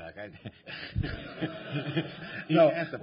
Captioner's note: laughter